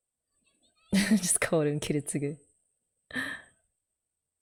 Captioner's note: laughs